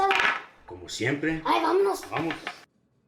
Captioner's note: Spanish